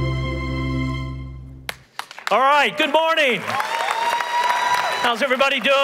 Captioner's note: applause